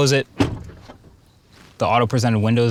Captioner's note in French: porte claquant